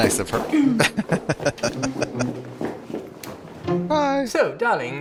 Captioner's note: chuckling; laughing